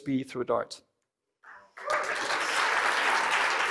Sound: cheering and applause

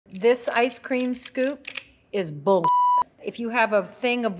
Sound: beep

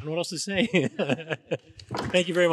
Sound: all laughing

